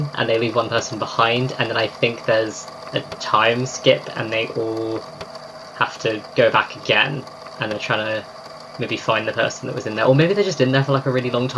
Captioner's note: laughing